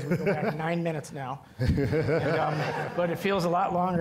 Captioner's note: all laughing